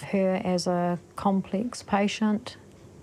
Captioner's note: none